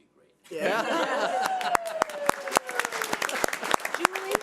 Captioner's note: crowd cheering